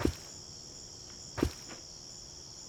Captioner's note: thud of footsteps